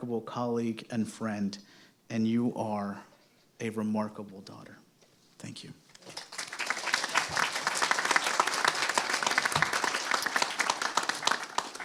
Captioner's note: applause